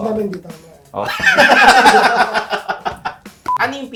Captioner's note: everybody laughs